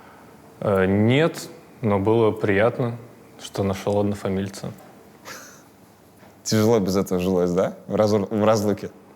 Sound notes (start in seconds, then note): 5.2 chuckles